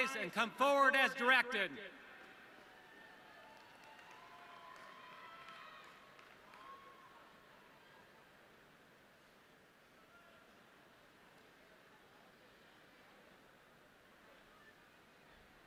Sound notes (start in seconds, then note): 4.8 audience cheering